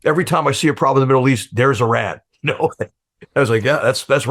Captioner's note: chuckles